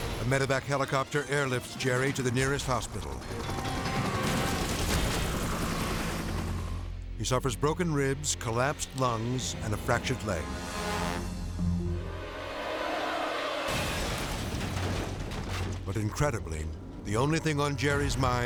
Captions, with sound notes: A medevac helicopter airlifts Jerry to the nearest hospital. (helicopter whirring) He suffers broken ribs, collapsed lungs, and a fractured leg. (race car crashing) But incredibly, the only thing on Jerry's mind